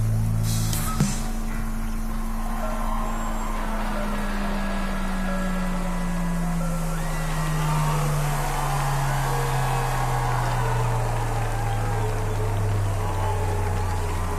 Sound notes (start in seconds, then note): 2.4 crowd Cheering